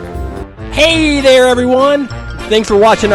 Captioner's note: voiceover